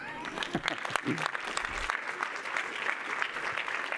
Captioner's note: applause